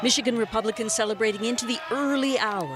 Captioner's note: cheers and applause